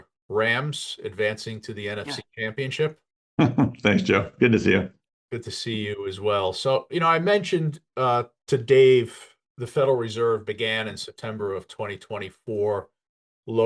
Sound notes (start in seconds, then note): 3.4 laughs